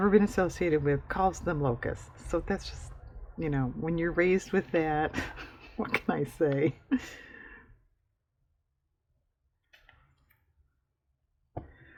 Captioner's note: laughs